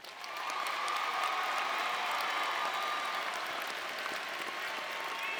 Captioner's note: audience cheering and applauding